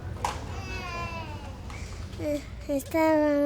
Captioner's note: woman speaking in a foreign language; baby crying